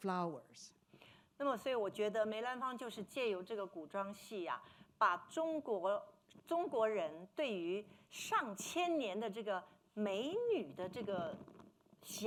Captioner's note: speaking Mandarin